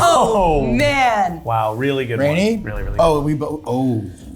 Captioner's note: none